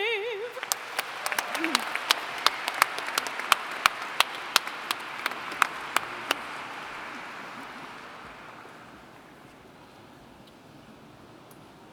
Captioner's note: applauding